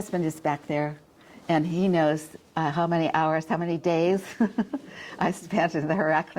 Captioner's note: chuckles